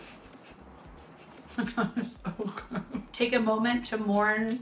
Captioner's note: laughing